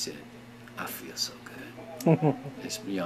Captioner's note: laughing